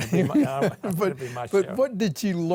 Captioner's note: laughing